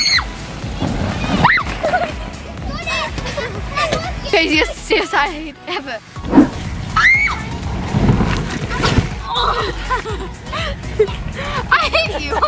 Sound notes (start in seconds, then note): 1.1 kids screaming; 6.9 kids yelling; 8.6 kids grunt